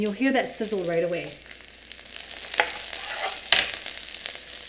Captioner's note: pan sizzling